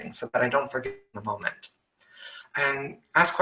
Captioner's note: audio cuts out